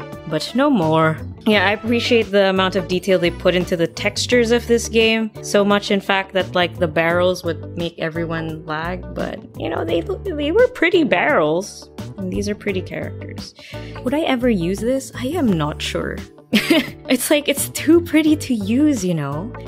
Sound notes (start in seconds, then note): 16.6 ugly laugh